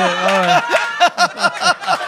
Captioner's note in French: rires